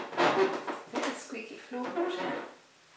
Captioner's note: creaking